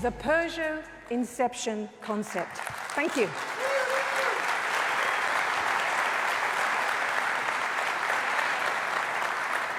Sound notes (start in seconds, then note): 2.3 audience applauding